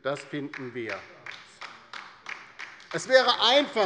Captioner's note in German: Beifall bei der LINKEN